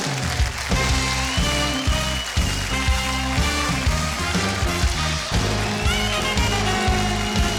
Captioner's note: audience claps; lively music